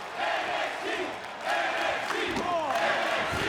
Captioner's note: crowd chanting